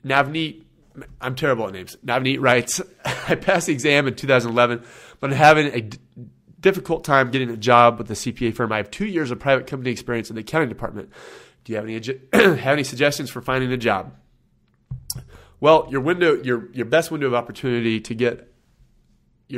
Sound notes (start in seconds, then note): 3.0 laughs